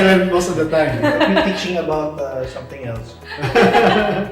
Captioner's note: laugh